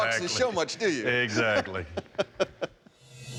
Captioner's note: laughs